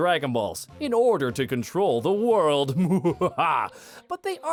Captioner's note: terrible villainous laugh